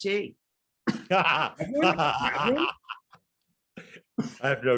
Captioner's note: laughing